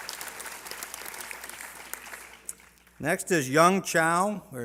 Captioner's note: applause